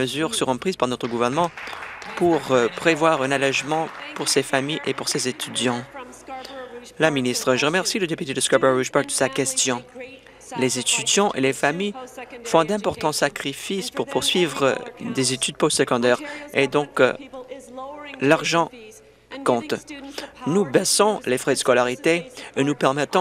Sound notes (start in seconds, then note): 5.0 applause